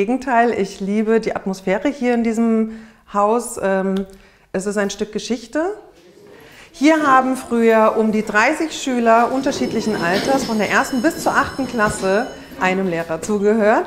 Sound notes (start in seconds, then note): 7.1 bubble of voices, school bell